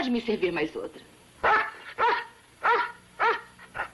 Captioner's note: dog barking